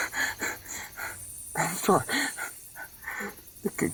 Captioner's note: sob